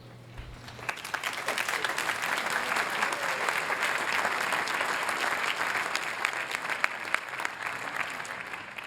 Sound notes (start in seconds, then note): 0.5 applause